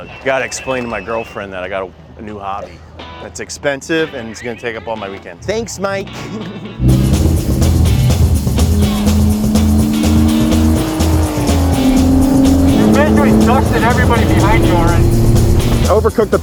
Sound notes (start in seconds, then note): 6.0 upbeat music; 6.7 car engine roaring